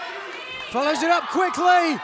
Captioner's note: crowd chatter